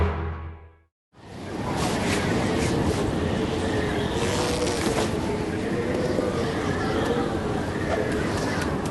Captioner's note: whistling wind